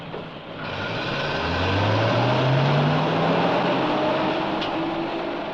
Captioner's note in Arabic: هدير محرك الحافلة